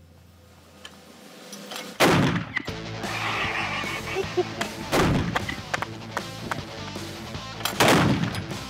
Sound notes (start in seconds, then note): 2.0 loud explosion; 2.4 rock music playing; 4.1 Rick snickers, claps